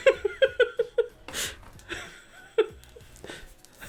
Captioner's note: laughs